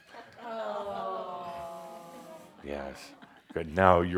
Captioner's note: Adamus puts a red Shaumbra scarf on Edith and audiences says, “Aww!”